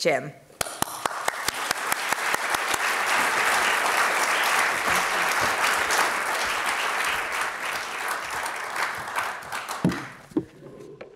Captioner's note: applause